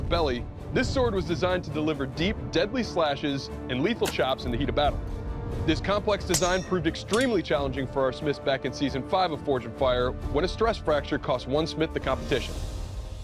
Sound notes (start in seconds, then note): none